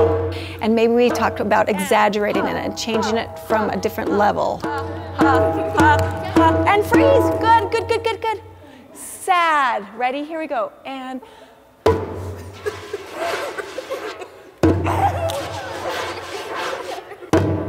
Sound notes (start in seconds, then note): 4.3 vocalizing drum beat; 11.8 hand drum thump; 11.8 hand drum thump scratching; 14.6 hand drum thump; 14.8 children giggling; 15.1 hand drum thump scratching; 17.3 hand drum thump